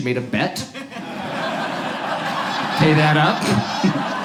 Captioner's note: audience laughs